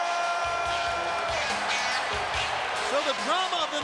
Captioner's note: crowd cheers; guitar funk music plays